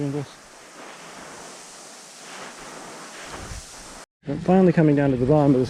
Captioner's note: feet sliding